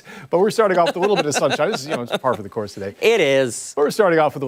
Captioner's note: laughter